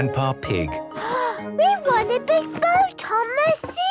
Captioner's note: gasps